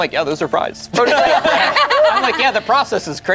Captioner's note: group laughs